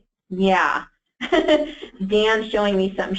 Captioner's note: laughs